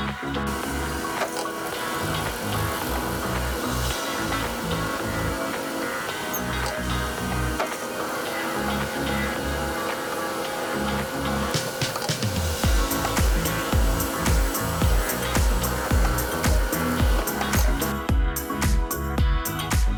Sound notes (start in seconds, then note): 0.9 machine whirring